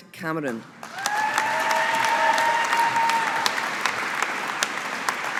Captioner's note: audience applauding